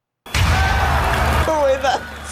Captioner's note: canned cheering